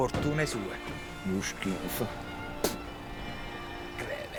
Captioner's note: spits